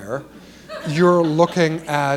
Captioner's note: laughter